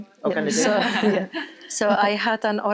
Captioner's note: all laugh